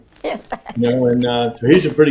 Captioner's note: laughs